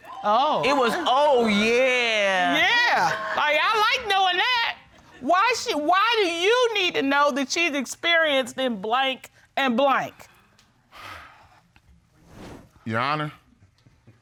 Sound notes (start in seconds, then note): 11.0 sighs